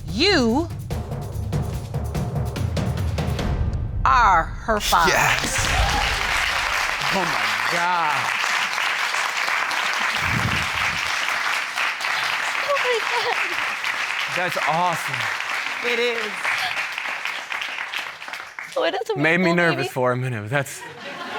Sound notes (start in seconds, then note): 5.8 audience cheering and applauding